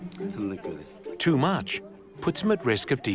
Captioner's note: speaking Uyghur